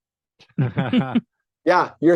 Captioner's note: chuckling